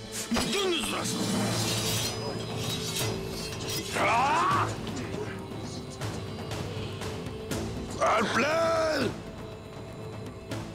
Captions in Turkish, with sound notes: Gündüz, durasın! (Kılıç sesleri) (Bağırma sesi) Alpler!